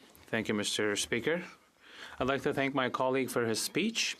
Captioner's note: speaking French